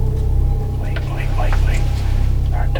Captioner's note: whispering